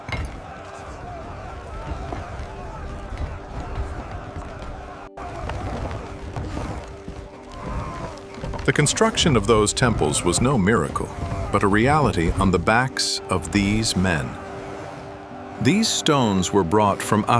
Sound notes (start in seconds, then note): 6.3 trucks rumble